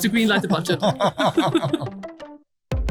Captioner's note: both laugh